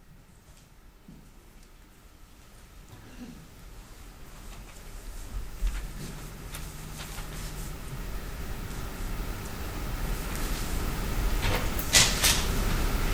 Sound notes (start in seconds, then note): 2.6 quiet rustling